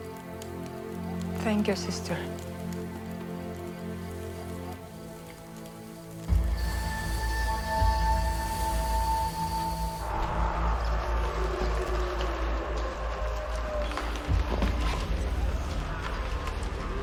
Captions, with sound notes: - Thank you, sister. (eerie music) (revenants screeching)